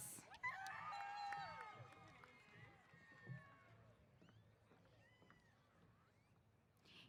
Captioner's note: applause & Cheers